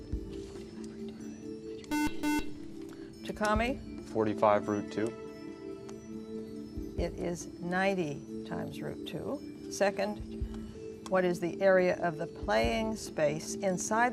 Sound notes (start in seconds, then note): 1.9 buzzer